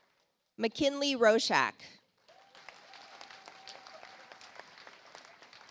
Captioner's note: audience applauds